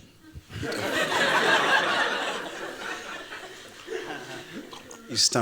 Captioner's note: laughter